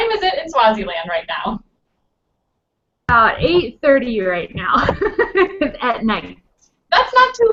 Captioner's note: laughs